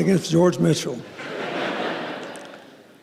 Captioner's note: laughter